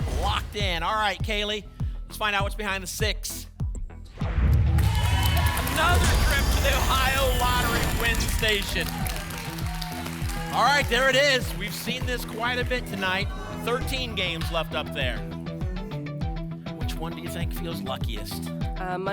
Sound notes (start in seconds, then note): 4.1 boom; 9.1 applause and cheering